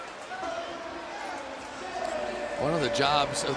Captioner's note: pa announcement